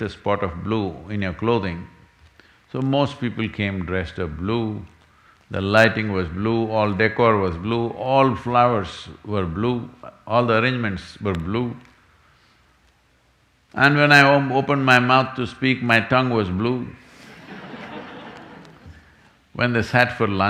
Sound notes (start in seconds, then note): 17.2 laughter